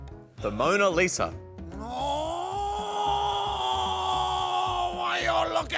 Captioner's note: groans